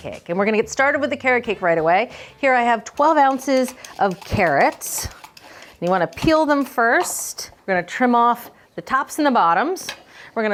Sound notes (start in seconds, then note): 5.0 peeler clicking